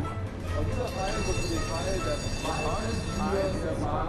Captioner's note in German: Straßenbahn klingelt